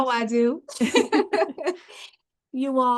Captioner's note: laughing